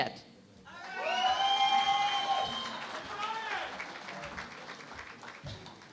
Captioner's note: cheering and Applause